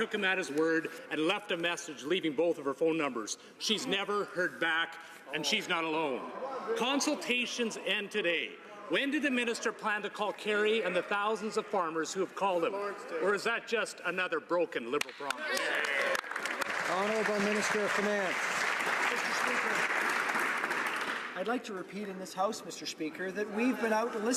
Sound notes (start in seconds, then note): 19.1 some Applause